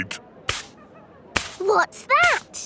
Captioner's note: brushing